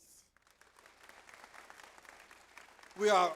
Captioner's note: audience applauds